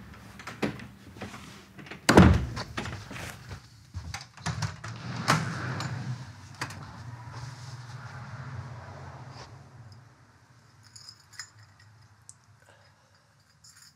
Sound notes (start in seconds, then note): none